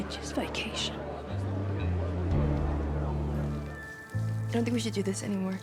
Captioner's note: chatter